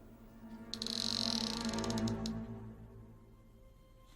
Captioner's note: door creaks open